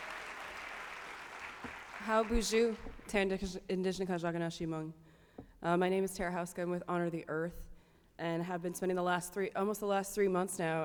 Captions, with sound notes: -[speaking her language] -My name is Tara Houska. I'm with Honor the Earth, and I have been spending almost the last three months now